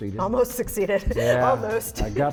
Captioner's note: laughs